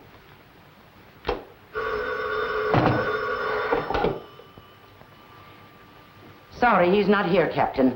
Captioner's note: phone rings